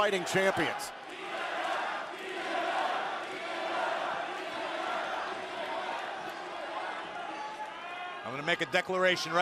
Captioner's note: fans chanting